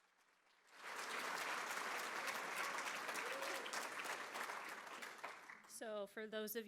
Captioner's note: applause